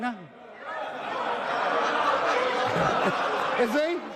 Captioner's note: house erupts